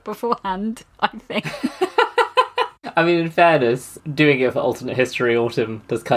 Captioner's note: laugs